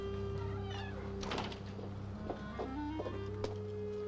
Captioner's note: quick somber music; door slams